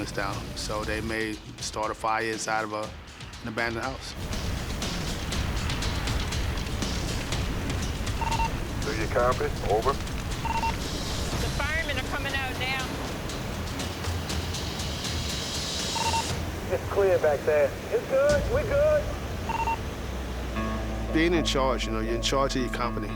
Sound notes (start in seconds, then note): 8.2 man, over radio; 16.2 man, over radio